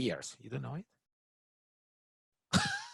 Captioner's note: laughs